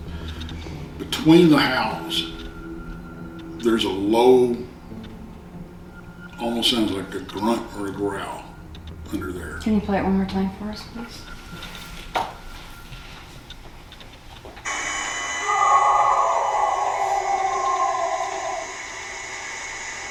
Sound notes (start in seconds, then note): 14.6 animal howling